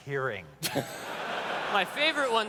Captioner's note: laughter